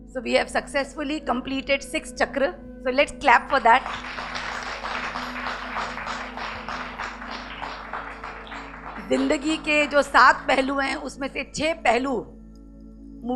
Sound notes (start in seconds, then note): 3.5 audience claps